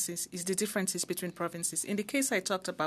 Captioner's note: speaking in French